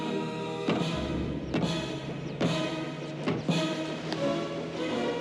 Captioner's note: banging